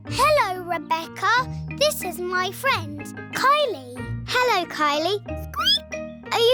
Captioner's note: squeaks